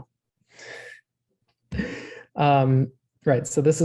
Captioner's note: chuckles